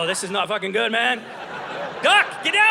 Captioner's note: audience laughing